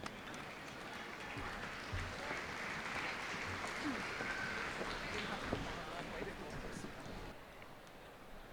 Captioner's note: applause